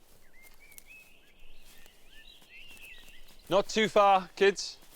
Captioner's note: birds chirping